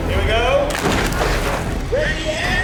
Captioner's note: objects boom